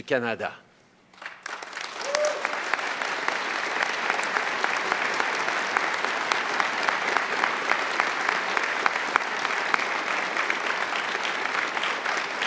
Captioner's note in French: Applaudissements